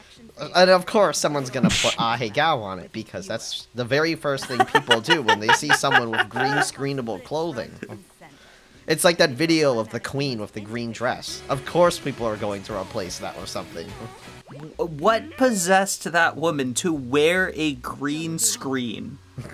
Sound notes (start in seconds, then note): 4.4 laughs in ℌệ𝔫𝔱ằ𝔦